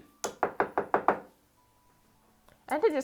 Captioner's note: brush tapping